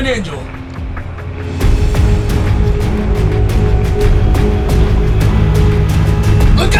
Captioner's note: beeping radar